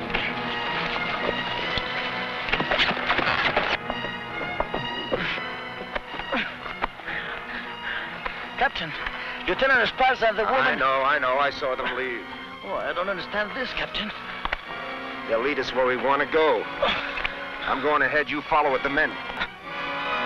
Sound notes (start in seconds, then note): 0.1 tense music; 3.4 horse hooves pattering; 6.4 sentry groaning; 19.1 tense music